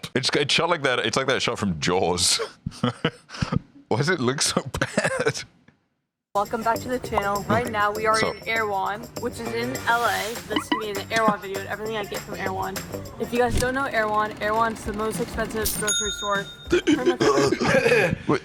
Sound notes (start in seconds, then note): 4.2 laughing